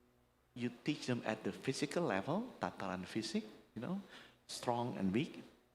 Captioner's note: speaking indonesian